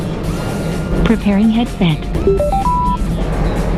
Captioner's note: sound of intercom activating